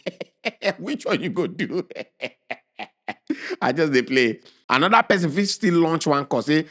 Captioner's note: chuckles